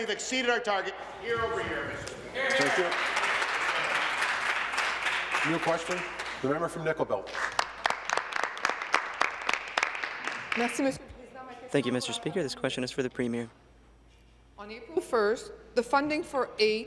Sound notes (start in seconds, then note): 7.2 applause; 12.3 speaking in French